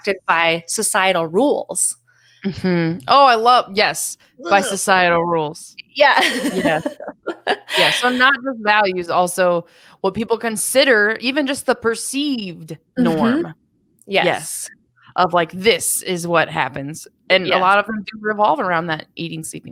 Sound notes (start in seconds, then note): 6.2 chuckles